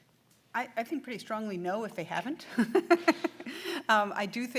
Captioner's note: laughs